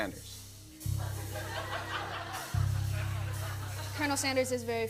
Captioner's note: laughter